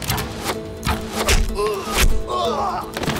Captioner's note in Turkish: Ok sesi